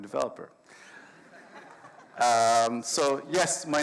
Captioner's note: audience laughs